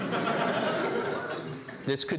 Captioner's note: laughs